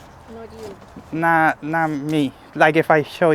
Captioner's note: speaking Spanish